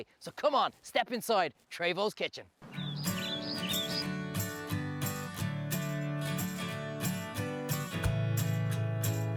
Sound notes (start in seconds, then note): 2.6 birds chirp; 3.0 bright music